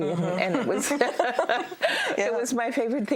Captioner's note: both laugh